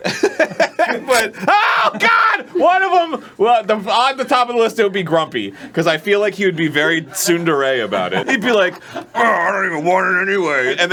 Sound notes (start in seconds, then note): 1.0 rips